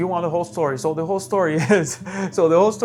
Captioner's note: laughs